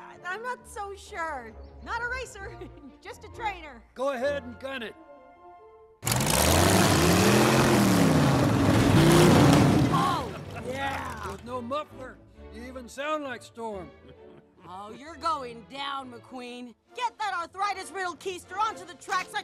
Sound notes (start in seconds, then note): 6.0 car engine revving; 13.8 male car laughing